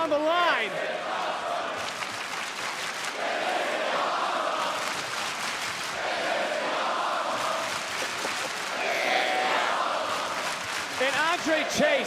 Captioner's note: crowd chants "this is awesome"